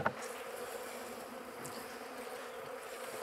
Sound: humming

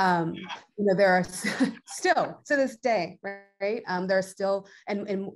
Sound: chuckles

